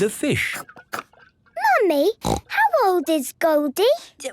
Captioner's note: snorting